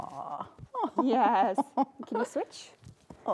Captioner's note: laughing